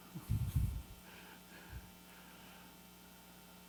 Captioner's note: chuckles